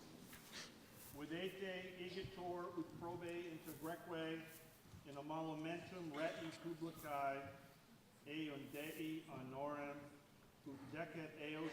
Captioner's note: speaking latin